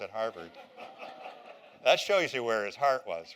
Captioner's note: laughter